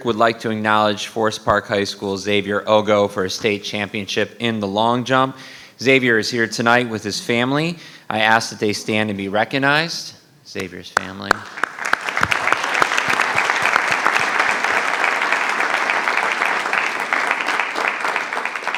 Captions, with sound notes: would like to acknowledge Forest Park High School, Xavier Ogo, for a State Championship in the long jump. Xavier is here tonight with his family. I ask that they stand and be recognized, Xavier's family. (attendees applauding)